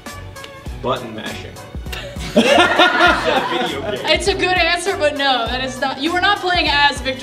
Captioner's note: laughter